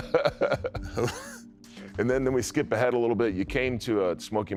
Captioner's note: laughs